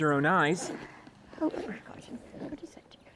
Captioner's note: Nanny Gretzinger speaking faintly